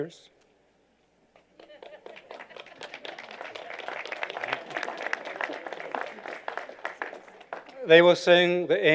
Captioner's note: applause